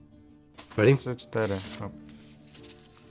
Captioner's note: in Polish